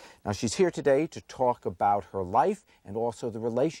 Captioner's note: none